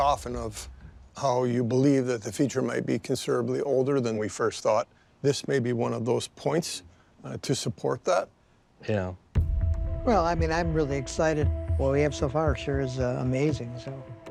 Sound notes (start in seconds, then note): none